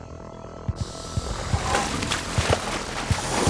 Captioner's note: snake hissing